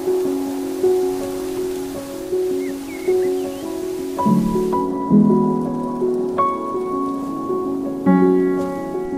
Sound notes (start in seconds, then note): 0.0 calm music; 0.0 wind blowing; 2.9 birds chirping; 5.5 calm music continues